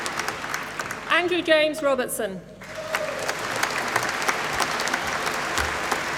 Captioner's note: applause